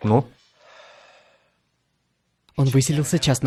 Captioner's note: sighs